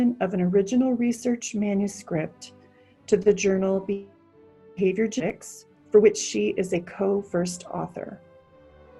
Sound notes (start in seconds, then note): 4.1 faintly speaking